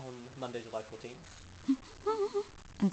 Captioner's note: laughs